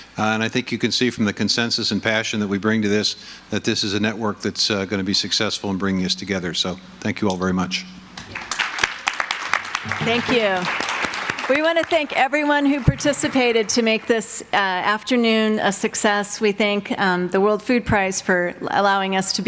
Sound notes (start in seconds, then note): 8.2 audience applauding